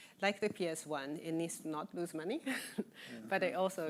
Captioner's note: laughing